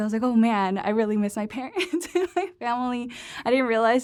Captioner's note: laughter